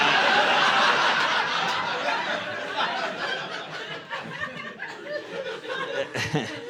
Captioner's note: audience laughing